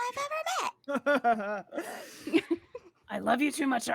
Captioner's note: laughs